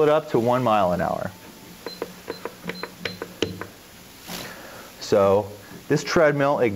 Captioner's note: beeps